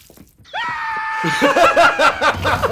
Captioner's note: piercing shriek